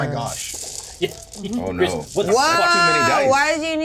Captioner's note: dice rattle